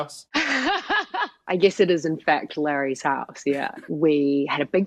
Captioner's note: laughter